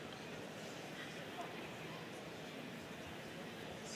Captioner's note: crowd chattering